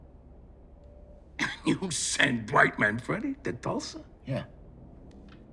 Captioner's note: laughing